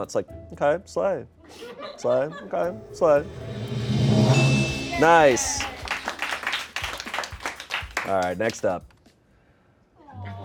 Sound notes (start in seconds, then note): 2.7 drum roll hisses; 3.2 bell chimes; 5.8 crew applauds